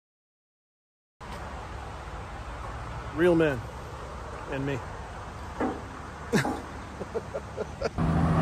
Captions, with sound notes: Real men and me... [Laughter]